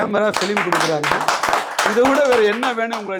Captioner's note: audience claps